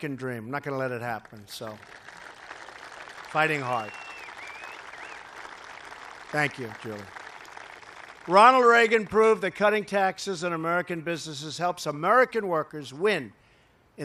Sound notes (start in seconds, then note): 3.6 applause